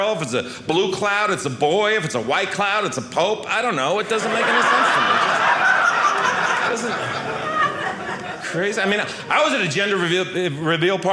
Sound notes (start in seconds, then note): 5.6 audience laughing